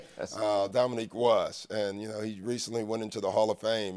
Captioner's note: laughs